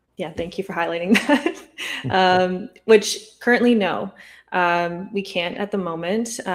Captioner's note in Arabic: ضحك